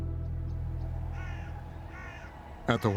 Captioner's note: bird cawing